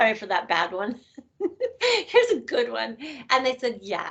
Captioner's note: laughing